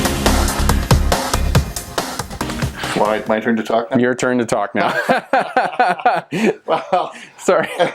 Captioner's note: laughter